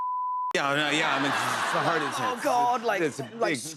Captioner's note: laughter